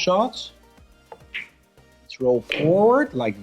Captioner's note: ball smacks